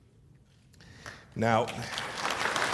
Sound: applause

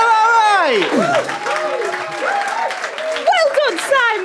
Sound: audience whoops

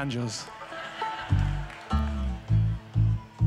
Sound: audience laughs

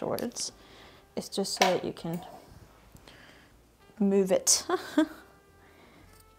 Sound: laughs

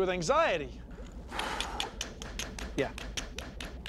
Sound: <i> sighs</i>

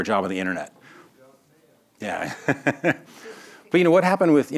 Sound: laughs

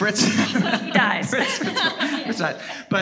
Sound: all laughing

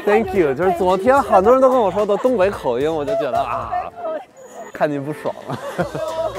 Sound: speaking in foreign language

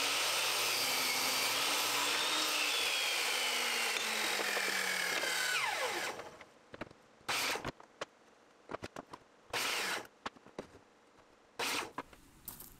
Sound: miter saw cutting wood

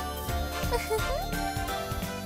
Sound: giggle

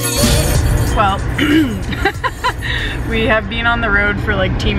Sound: clears throat

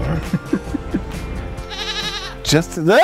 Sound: chuckling; goat bleats

